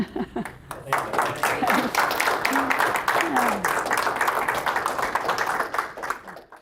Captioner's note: audience chuckling; applause